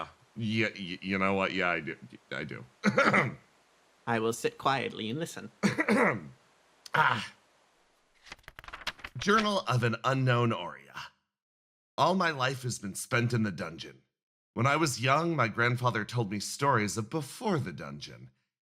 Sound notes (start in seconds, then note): 2.8 coughs; 5.6 clears Throat